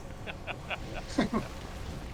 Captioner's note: laughter